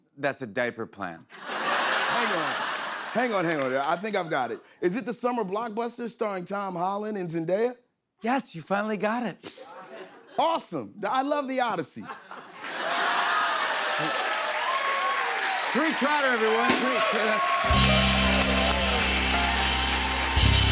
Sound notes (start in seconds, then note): 1.3 laughter; 12.0 laughter; 17.1 cheers and applause